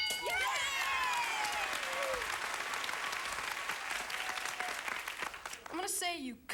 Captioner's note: audience applauding